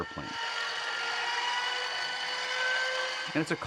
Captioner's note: whirring